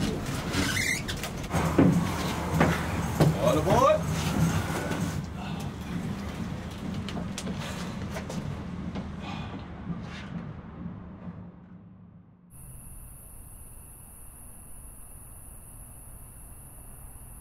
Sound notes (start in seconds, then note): 12.5 cricket chirping